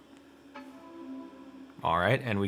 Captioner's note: computer dings quietly